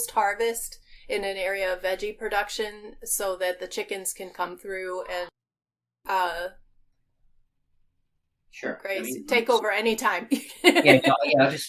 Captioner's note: laughing